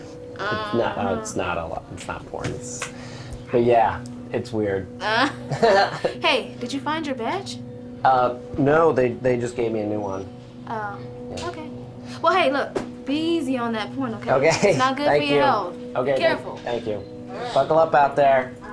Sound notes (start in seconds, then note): 5.2 laughs; 16.7 laughs